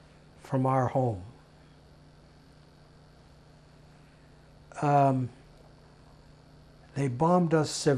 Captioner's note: pauses 6 seconds